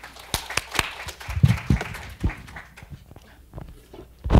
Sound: applauding; laughing

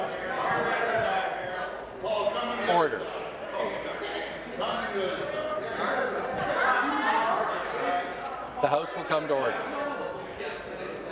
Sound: conversation din

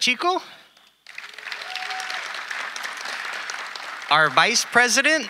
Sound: audience applauding

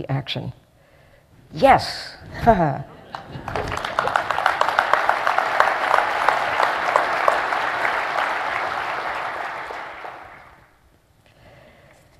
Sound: applause

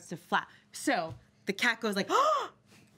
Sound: girl gasps

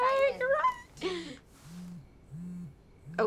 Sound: phone buzzing

